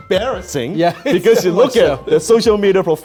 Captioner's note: laughs